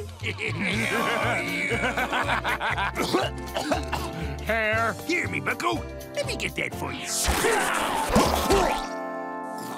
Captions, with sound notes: [laughing] [coughing] -Hair. -Here, me bucko. Let me get that for ya.